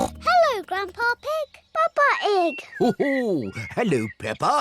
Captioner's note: oinks